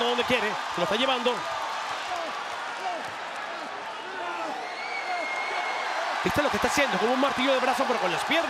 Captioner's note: applause